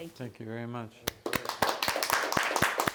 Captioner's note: applause